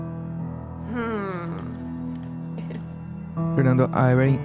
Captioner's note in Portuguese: Risada